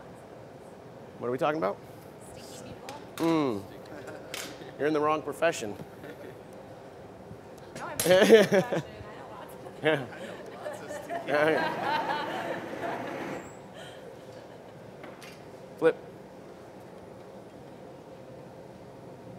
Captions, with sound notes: What are we talking about? You're in the wrong profession. (Laughter) Flip.